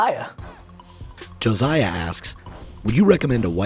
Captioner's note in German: Voice-over